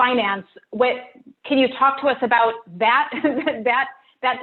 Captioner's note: laughs lightly